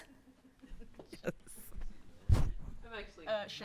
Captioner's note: laughs; crew laughing